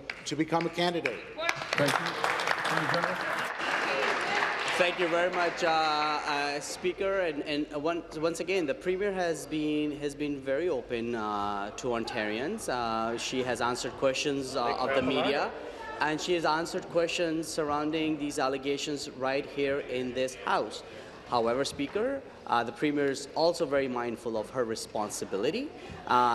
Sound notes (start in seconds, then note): 4.9 applause